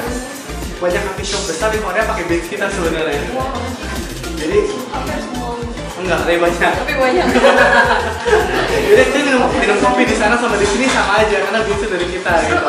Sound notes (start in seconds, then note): 7.1 haha